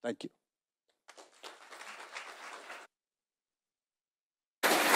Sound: audience clapping

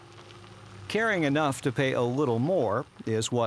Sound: voiceover

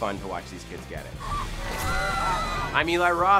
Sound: screaming

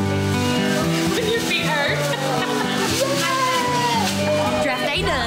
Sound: chattering

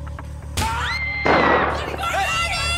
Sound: shot and screaming

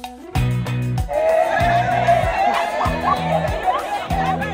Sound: crowd cheering and laughing

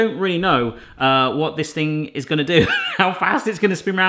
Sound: wheezing laugh

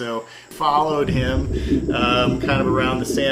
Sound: ocean whistling gently

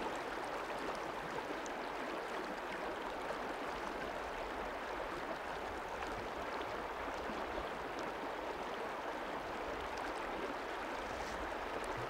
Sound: rushing water sounds

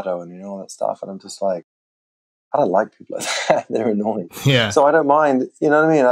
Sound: laughter

